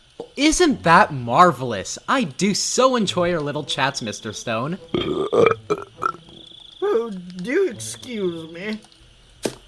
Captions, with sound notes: Well isn't that marvelous? I do so enjoy our little chats, Mr. Stone. (Burping) Oh, do excuse me